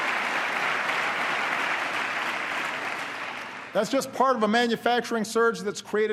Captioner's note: applause